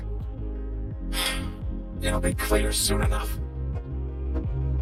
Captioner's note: sighs